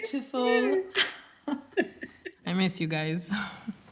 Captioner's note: laughs